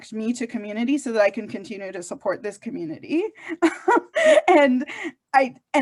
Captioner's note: chuckles